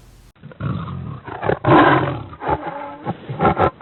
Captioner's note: tiger roaring